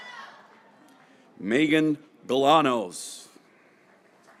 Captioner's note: graduates cheering